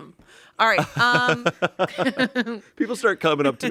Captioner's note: everyone laughs